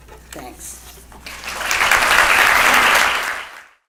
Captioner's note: applause